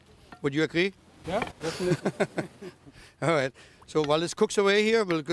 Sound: laughs

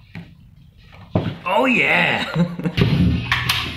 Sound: In a "Kevin from The Office" tone

